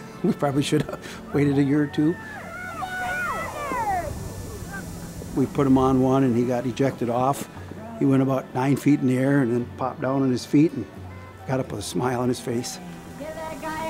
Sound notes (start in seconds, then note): 0.2 chuckles; 2.9 crowd shouting